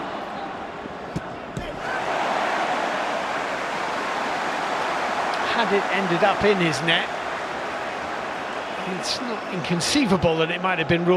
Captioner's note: audience oohs